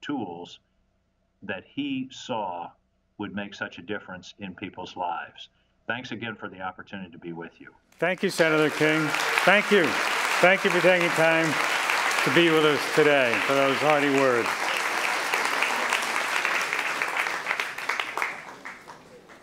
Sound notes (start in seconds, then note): 10.0 applause